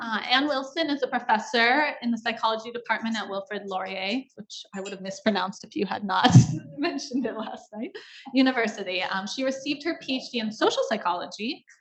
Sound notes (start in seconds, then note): 6.5 laughs